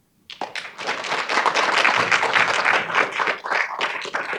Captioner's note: audience applauding